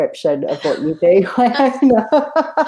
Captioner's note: both laugh